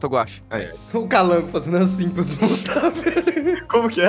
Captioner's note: laugh